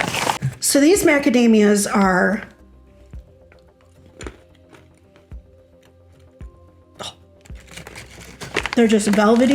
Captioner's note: crunch